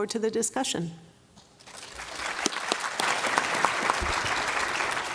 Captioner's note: applause